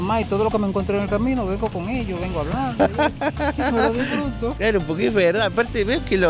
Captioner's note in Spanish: risas